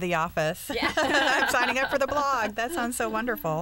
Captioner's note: laughter